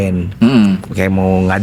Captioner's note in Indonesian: berdehem